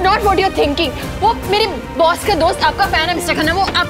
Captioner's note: Door closes